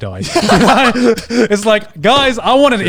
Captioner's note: all laughing